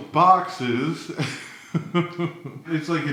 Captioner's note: chuckles